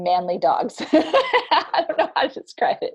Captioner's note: laughs